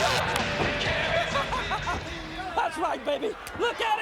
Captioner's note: laugh